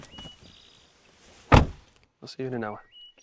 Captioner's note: door clicking